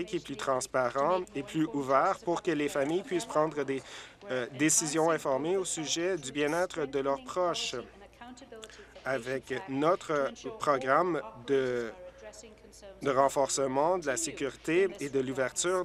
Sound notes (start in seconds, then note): none